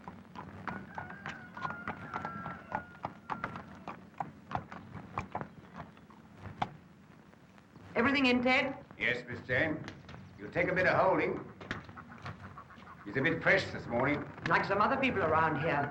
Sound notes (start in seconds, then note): 0.6 rooster crows in distance